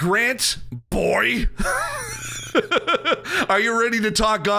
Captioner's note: laughing